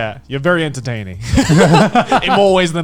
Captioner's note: laughing